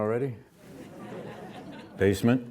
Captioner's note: audience laughs